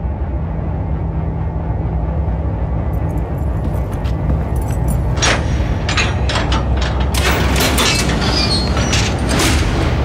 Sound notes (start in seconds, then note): 0.2 electric humming; 4.3 metal clinking